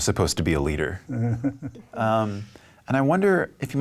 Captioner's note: chuckling